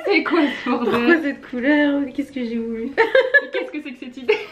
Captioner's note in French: rires; rires